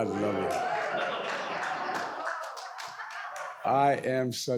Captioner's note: audience applauds